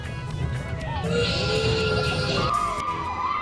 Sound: train whistle; screaming

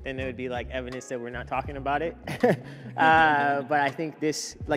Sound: laughs

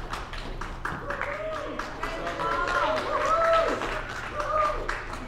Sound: audience cheering

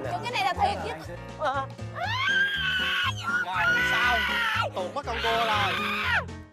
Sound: screams

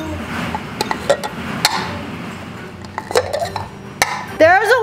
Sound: cups clink on counter

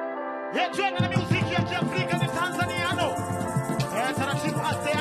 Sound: man speaking in language other than English

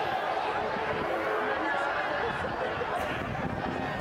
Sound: yelling

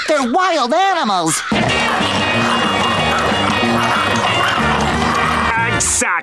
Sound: growling

